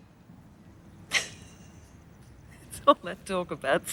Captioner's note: laughs